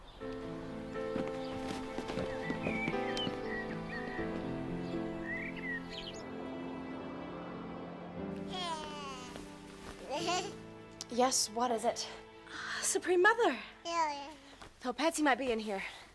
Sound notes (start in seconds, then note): 0.3 gentle music; 8.5 baby cooing